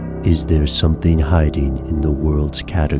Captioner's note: dissonant music; voiceover